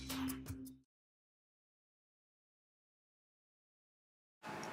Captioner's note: silence